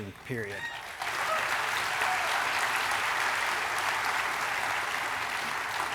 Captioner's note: audience applauding and cheering